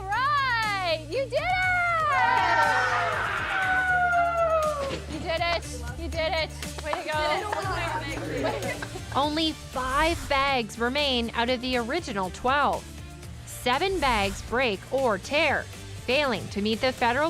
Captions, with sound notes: All right, you did it. [cheering] You did it. You did it. Way to go. Only five bags remain out of the original 12. Seven bags break or tear, failing to meet